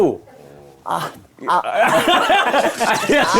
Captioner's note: groans